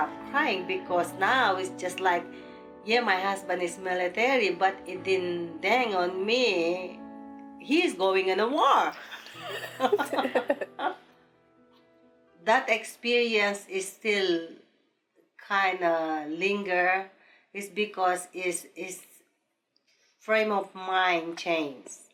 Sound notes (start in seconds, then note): 9.0 both laughing